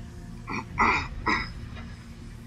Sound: clears throat

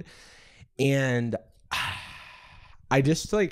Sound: sighs

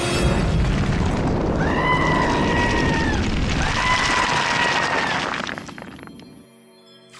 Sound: screaming

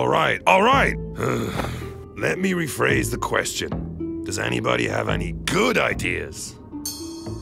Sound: sigh

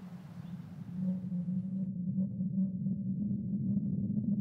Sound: low rumble

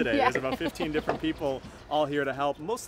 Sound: laughs

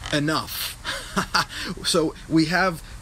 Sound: laughs

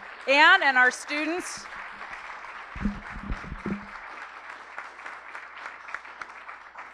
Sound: applause

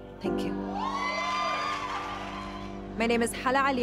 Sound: cheering and applause

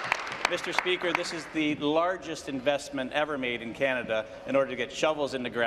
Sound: applause

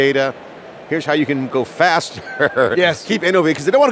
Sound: laughs

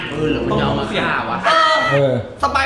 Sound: yells

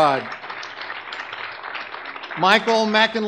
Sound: audience clapping

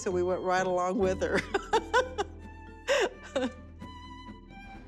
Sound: laughing

